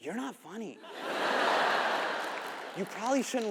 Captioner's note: audience laughs